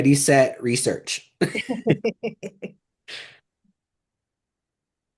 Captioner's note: laughter